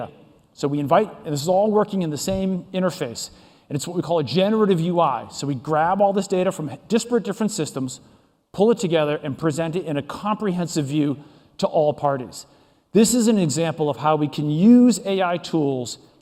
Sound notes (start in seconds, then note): none